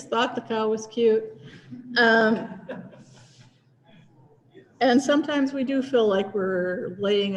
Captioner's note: laughter